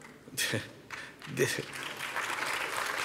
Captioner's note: applause